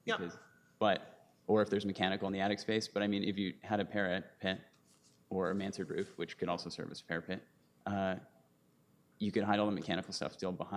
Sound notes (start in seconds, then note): none